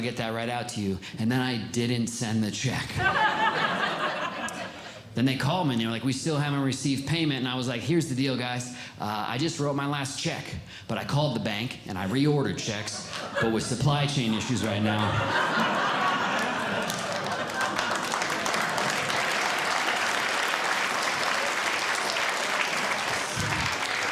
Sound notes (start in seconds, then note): 3.0 audience Laughing; 15.6 audience Laughing; 18.1 audience Clapping